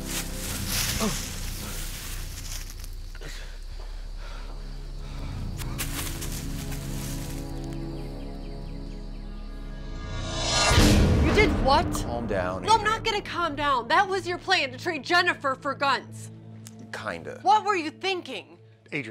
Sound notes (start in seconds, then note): 1.1 panting; 10.2 air whooshing